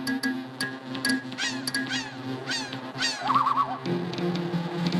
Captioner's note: plinking; animal calls